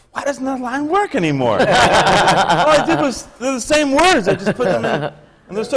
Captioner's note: laughter